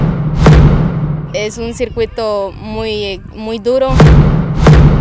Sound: in Spanish

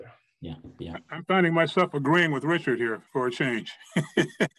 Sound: laughter

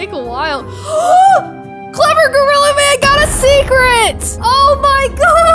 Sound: gasps

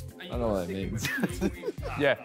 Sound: laughs

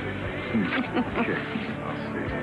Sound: Gabrielle laughs

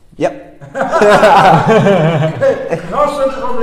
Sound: laughes

